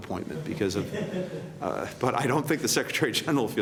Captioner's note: laughter